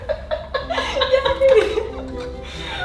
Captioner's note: both laughing; violin music